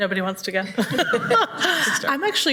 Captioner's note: everybody laughs